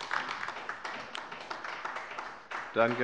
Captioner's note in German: Beifall bei der LINKEN